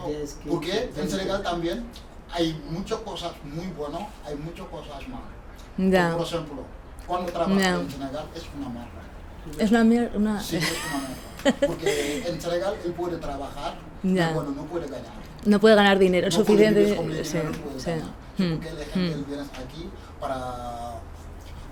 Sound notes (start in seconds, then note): 10.5 laughs